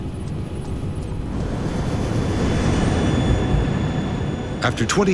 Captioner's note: plane engine roars